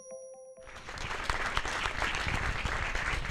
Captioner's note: applause